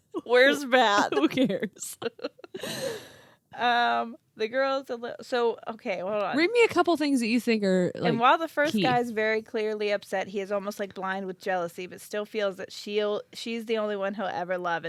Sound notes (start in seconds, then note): 2.2 laughing